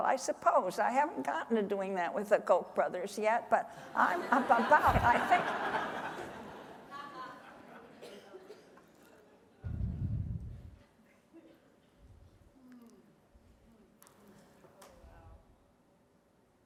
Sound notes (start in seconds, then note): 5.6 laughter